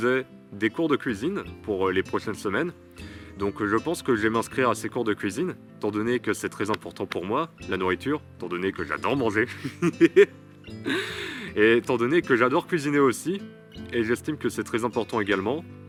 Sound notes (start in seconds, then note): 9.5 laughs